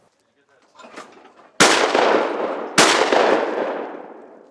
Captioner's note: gun shooting